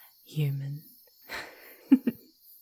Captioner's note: laughing softly